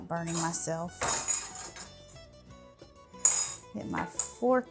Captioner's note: utensils clattering